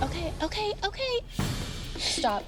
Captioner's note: sobs